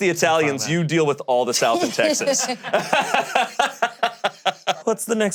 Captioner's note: laughs